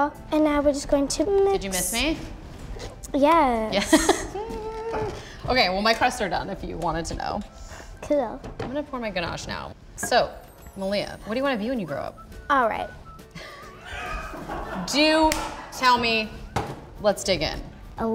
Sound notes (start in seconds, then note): 3.8 laughs; 13.3 producers laughing